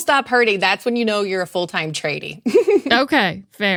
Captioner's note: laughs